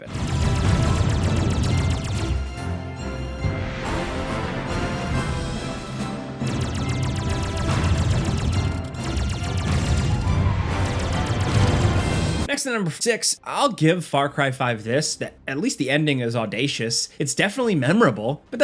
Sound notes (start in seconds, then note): 0.0 laser gun blasting; 0.2 rousing orchestral music; 6.4 laser gun blasting; 6.4 explosions booming